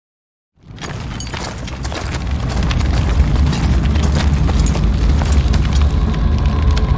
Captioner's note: fire roaring; ominous music